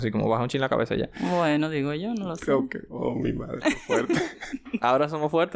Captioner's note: laughs